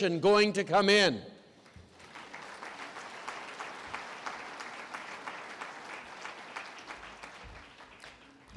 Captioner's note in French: Applaudissements